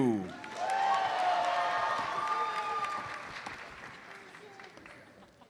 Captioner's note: audience cheers and applauds